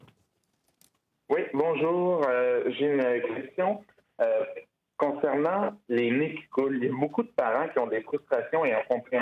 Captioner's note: speaking French